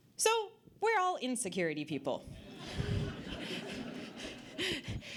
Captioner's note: audience Laughter